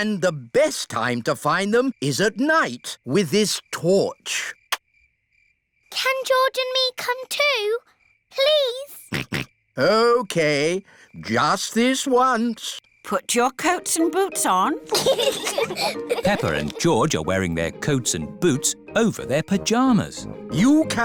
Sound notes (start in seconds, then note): 9.1 snorts; 14.8 both giggle